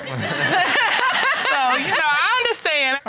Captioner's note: laughing